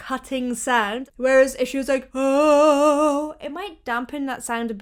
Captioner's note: vocalizes